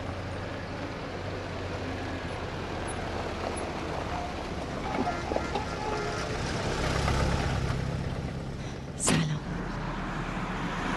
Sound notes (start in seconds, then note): none